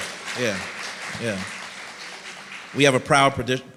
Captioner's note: applause